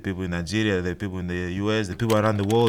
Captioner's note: keyboard clicking